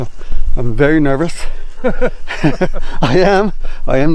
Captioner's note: chuckling